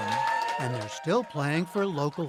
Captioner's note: cheering and applause